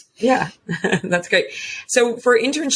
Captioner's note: giggles